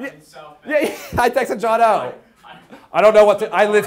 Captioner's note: laughing